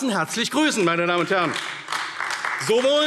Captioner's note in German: Beifall AfD